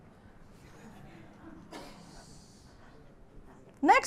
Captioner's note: laughter